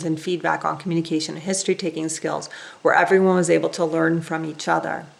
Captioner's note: none